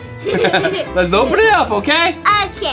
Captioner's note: both laugh